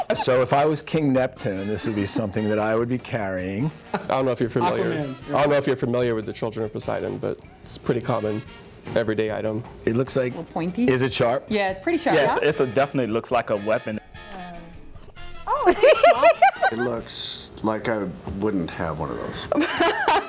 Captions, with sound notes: So if I was King Neptune, this would be something that I would be carrying. I don't know if you're familiar with the children of Poseidon, but it's pretty common everyday item. It looks like... is it sharp? Yeah, it's pretty sharp. It definitely looks like a weapon. Ouch! [LAUGHTER] Looks like I wouldn't have one of those. [LAUGHTER]